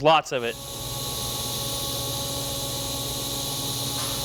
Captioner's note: welder hissing